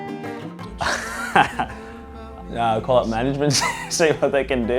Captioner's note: laughs